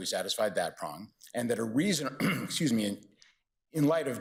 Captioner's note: clears throat